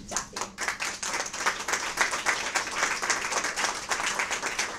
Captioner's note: audience applause